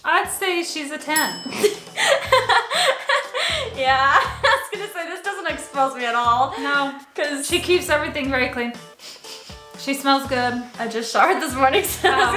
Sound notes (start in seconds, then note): 1.6 laughs; 8.8 sniffs